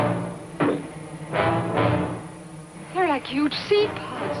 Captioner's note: popping